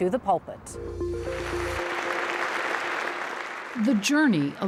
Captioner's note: pensive music; audience applauding